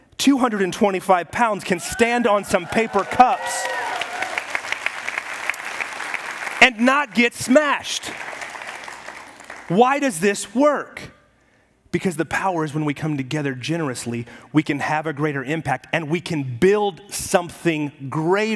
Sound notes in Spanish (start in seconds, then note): 4.0 aplausos y aplausos de la congregación